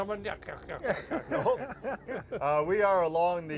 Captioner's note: all laughing